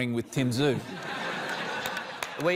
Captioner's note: laughter